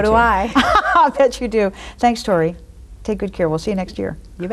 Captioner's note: laughs